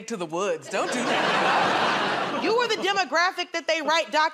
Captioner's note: laughter